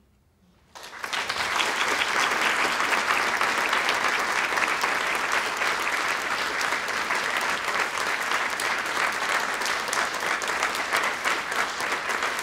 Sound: applause

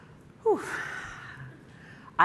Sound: sighing

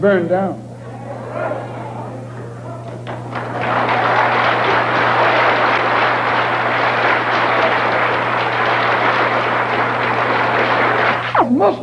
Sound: applause

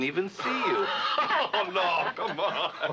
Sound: diane and mark laugh

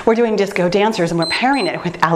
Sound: timer beeps

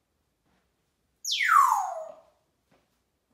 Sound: whistling

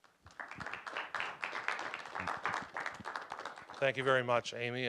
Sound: applause

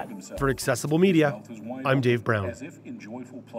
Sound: voiceover

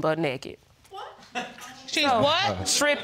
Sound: man chuckles

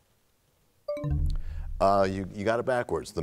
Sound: bell chimes, time expires

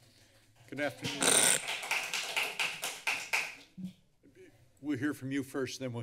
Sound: applause

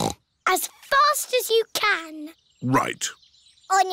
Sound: snorts

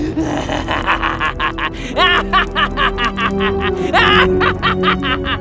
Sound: Wandering Traveler laughing

